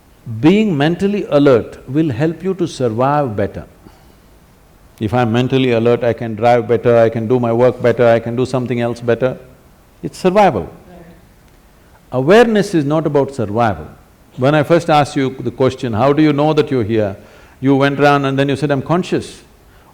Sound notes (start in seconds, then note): none